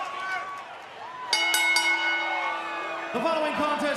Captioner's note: bell ringing